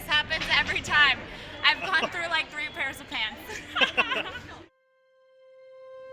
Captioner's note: laughs